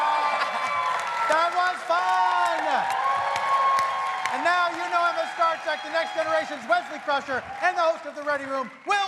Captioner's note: cheers and applause